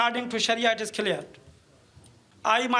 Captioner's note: speaking in foreign language